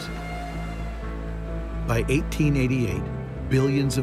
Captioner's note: train whistle blowing